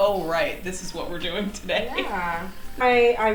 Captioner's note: laughing